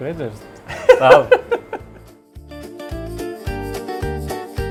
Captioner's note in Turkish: kahkaha